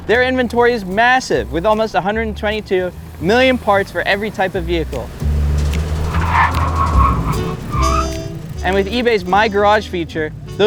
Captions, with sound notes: Their inventory is massive, with almost 122 million parts for every type of vehicle. (tires screeching) And with eBay's my garage feature,